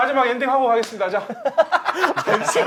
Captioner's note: laughing